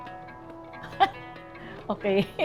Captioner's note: laughs; chuckles